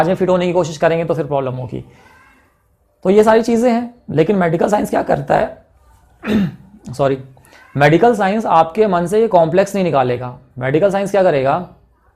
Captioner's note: coughing